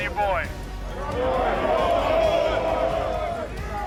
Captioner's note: crowd